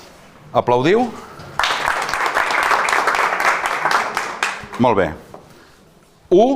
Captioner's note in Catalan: Aplaudeixen